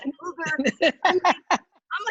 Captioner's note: laughing